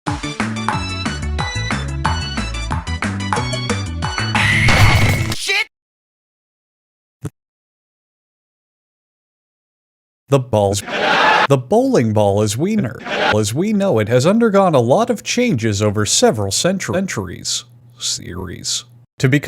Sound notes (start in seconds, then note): 10.8 laugh track; 13.0 laugh track